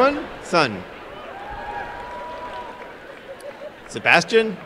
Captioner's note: applause and cheering